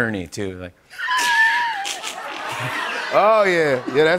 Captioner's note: snickering; laughter